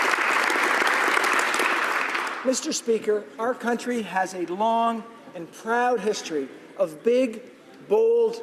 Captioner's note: applause